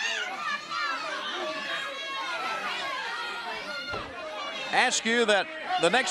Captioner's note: crowd chatter